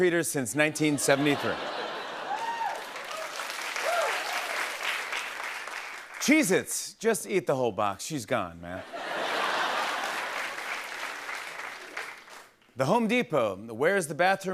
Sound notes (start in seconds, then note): 0.9 laughter and applause; 8.8 laughter and applause